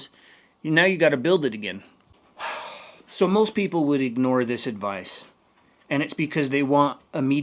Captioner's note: sighs and gasps